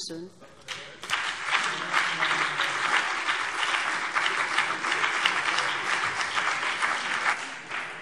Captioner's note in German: Beifall BÜNDNIS 90/DIE GRÜNEN und vereinzelt CDU